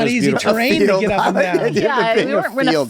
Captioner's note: laughing